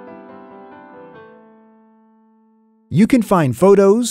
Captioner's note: gentle music; music stops